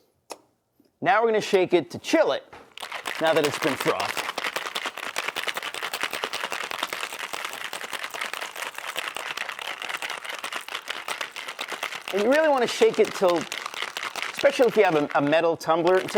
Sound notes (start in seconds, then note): 3.4 ice clattering; 9.0 ice clattering